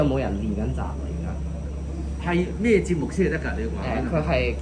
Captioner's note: Cantonese